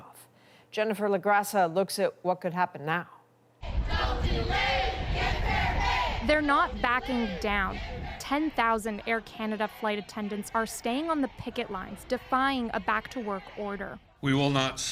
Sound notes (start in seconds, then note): 3.6 chanting